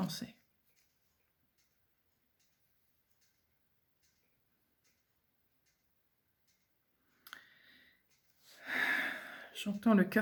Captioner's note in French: soupir